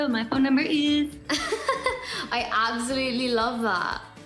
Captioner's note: laughs